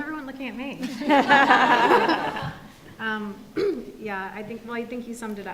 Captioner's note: audience laughs